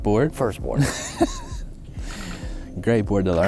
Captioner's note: laughs